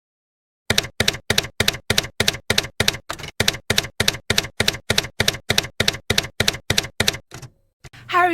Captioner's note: typewriter keys clacking